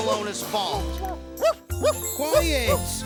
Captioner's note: dog barking